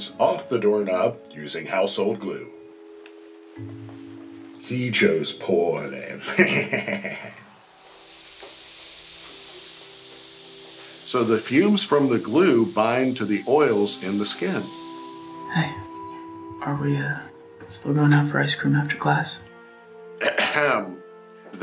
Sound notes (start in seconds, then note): 6.2 laughs; 7.9 chemicals hissing